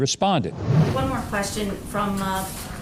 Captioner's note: whooshing